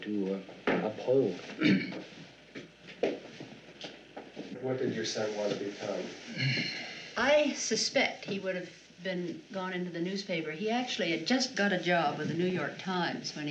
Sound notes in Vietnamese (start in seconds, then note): 1.6 Hắng giọng